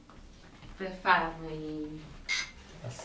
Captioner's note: doorbell rings